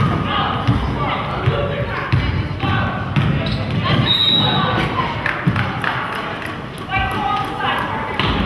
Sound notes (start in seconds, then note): 4.0 whistle blows